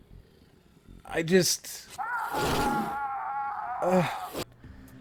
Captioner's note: sighs